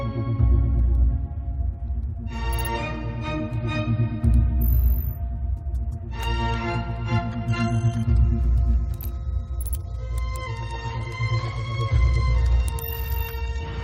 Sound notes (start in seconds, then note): 0.2 thriller music; 3.0 windows sound effects